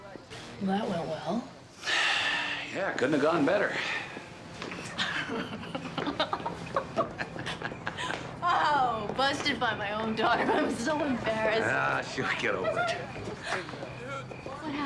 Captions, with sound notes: - That went well. (Nash sighing) - Yeah, couldn't have gone better. (both chuckling) - Oh, busted by my own daughter. I'm so embarrassed. - Ah, she'll get over it.